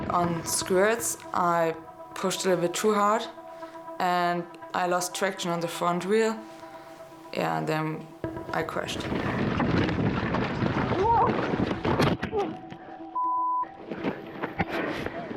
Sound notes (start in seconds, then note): 13.1 beep